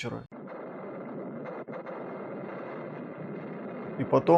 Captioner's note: грохот артиллерии